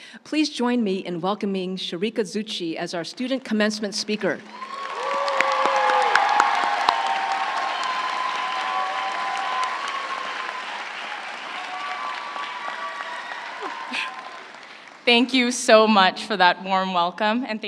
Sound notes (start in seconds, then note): 4.4 audience cheering; 4.5 audience applauding